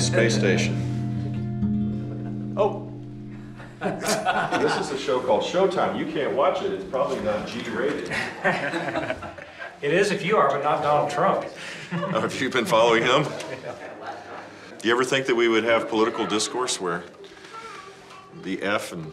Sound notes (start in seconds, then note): 8.0 laughter